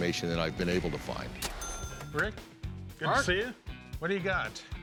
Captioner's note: none